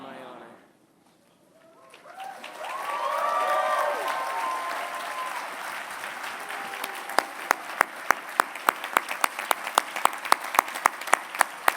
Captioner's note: applause